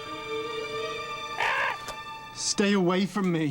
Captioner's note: caws